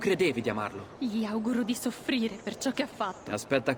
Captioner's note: aggressively